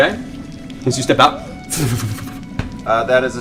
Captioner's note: laughter; fwip